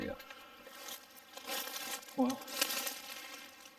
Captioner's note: leaves rustling